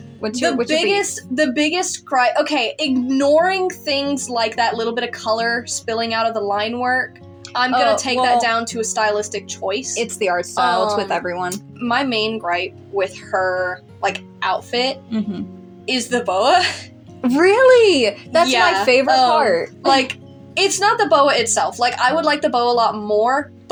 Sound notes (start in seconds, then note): 15.1 chuckling